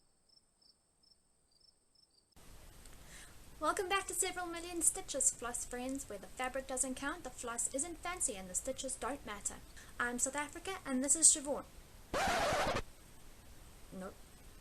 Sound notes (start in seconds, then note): 12.1 record scratch sound